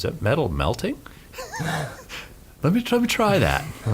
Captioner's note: he laughs